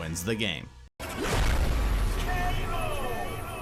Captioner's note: intense rumbling